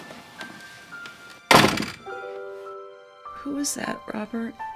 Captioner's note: dooor shuts